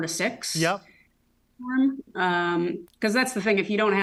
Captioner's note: audio distorts